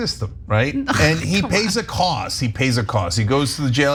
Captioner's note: laugh